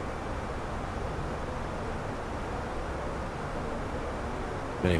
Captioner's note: radio chatter